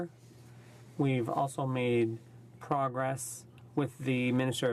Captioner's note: speaking from french